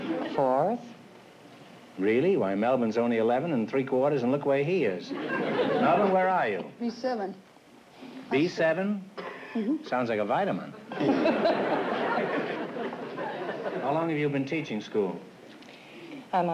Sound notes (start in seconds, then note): 10.9 laughs